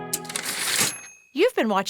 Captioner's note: typewriter ding